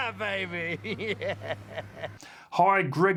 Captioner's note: laughing